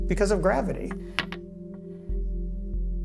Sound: clacking

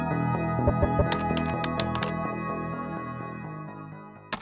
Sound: typing

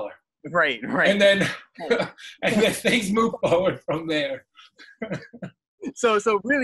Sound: laughs

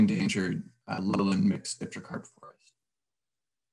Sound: audio cutting out

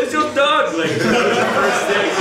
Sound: audience laughs

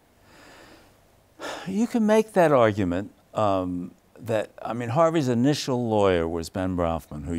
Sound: sighs

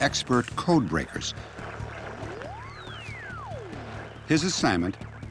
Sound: radio static warbling

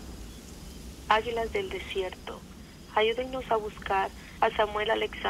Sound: women speak Spanish

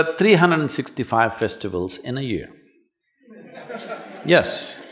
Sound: laughter

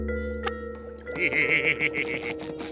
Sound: laughing

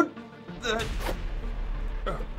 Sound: unzips pants

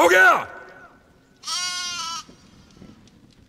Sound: goat bleats

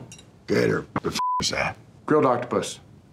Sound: beeps

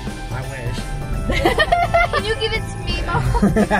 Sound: laughing

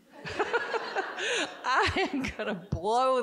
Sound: all giggling

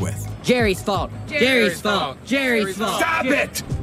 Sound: chanting

